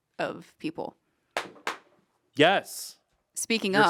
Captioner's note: Ian slaps knee